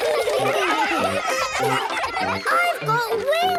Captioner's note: excited laughter